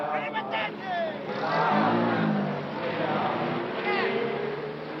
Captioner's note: shouting in foreign language